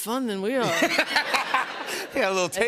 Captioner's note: laughter